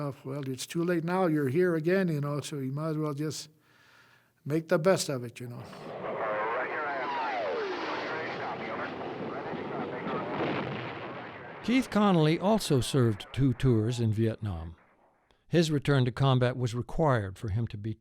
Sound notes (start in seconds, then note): 6.6 radio chatters; 10.4 booms